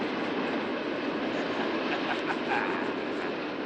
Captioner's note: chuckling